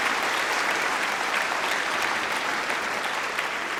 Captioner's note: applause